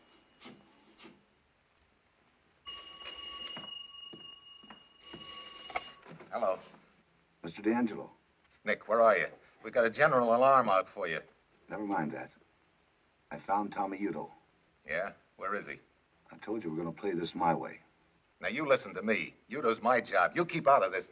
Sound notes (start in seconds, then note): 2.7 ringing